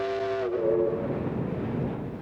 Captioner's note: train whistling